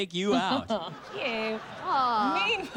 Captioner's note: laughs